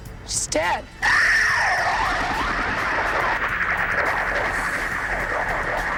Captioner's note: helicopter screeching